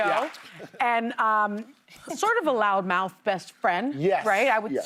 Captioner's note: cheers and applause